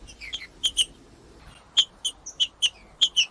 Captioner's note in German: trinca ferro cantando